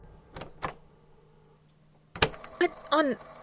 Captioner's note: click